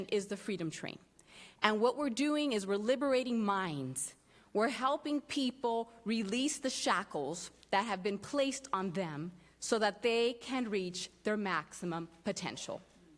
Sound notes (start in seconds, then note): none